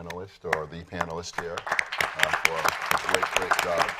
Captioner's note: applause